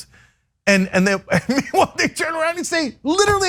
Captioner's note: laugh